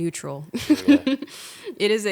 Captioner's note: laughing